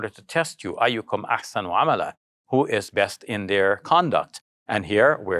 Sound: speaks in arabic

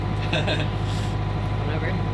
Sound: laughs

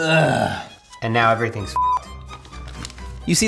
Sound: beep

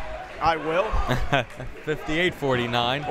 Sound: laughing

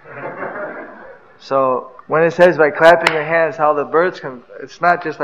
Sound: laughter

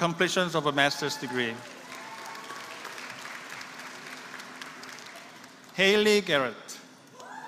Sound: applause

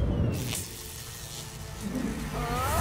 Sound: electric buzzing

